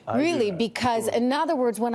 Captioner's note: speaking in spanish